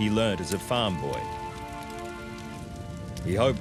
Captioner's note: wood crackling